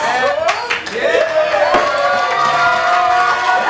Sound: crowd cheering

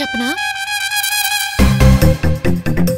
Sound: hush talk

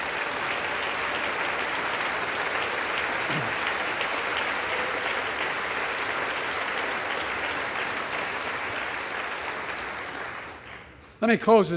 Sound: applause

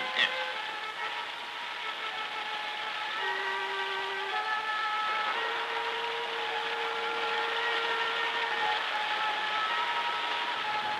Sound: water rushing

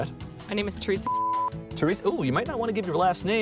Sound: beep

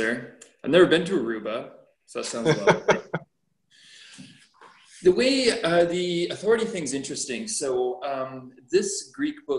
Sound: laughter

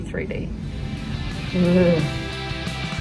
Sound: makes a shuddering noise

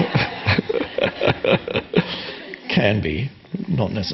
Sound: audience laughing; Eckhart laughing

